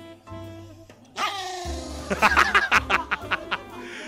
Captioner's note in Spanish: gruñe igual